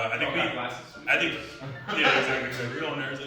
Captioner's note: all chuckle